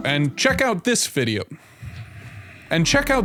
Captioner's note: mic boink; exhales from nose